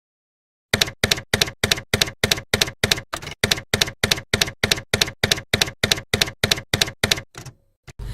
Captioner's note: typewriter keys clacking